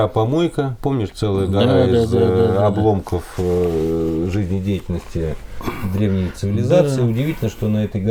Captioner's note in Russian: откашливается